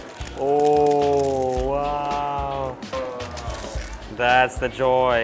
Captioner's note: pappad crunching